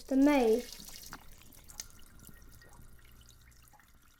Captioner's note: water running